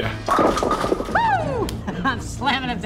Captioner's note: rattling